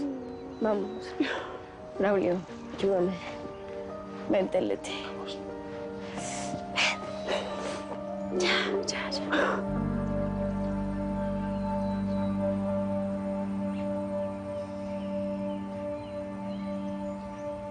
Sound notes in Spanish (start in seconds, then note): 6.9 Leticia solloza